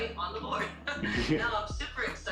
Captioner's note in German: lacht